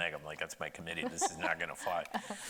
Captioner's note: laughing